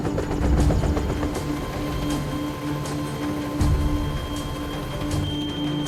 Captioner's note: sound of helicopter rotors